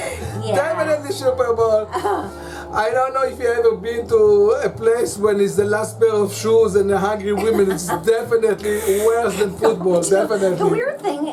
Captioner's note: makes sound of cat hissing